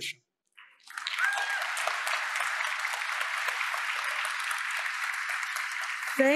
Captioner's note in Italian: Applauses